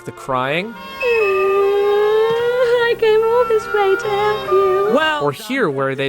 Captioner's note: sobbing